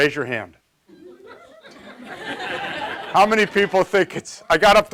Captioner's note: audience laughs